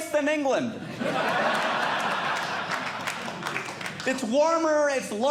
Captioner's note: audience Laughing